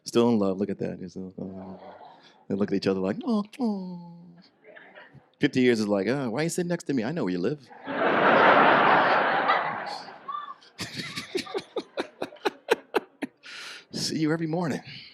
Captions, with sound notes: Still in love, look at that. They look at each other like, oh. 50 years is like, oh, why are you sitting next to me? I know where you live. (audience laughs) See you every morning.